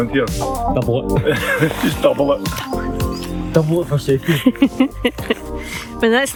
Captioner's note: laughter